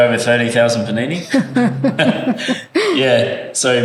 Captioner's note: laugh